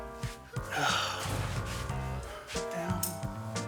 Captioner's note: sighs